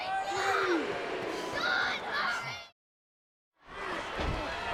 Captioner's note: audience chattering